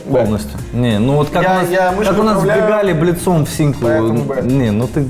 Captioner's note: heated discussion